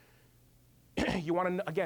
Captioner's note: clearing throat